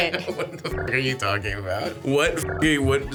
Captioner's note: beeps